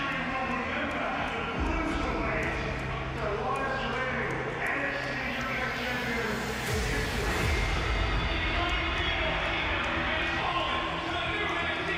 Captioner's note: crowd cheers